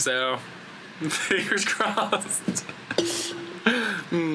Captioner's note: laughing